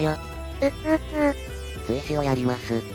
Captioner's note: cry